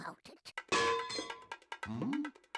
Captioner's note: clanging